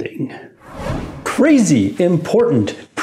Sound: air whooshing

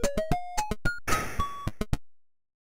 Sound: gun shot

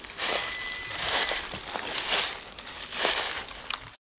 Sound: metal detector beeping

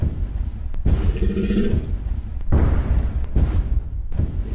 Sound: T. rex stomping; T. rex growling

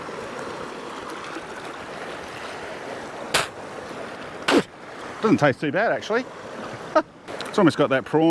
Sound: spitting

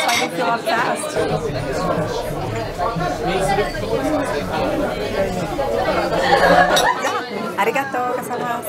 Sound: indistinct chattering

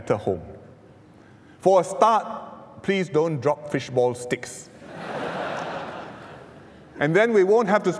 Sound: laughter

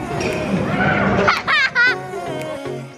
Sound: chuckles

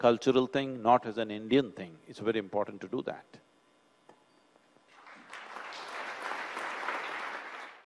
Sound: applause

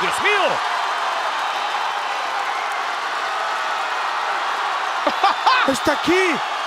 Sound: applause

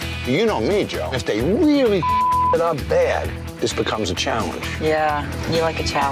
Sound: beep

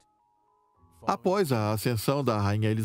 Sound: voiceover

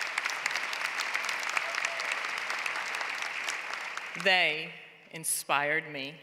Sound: applause

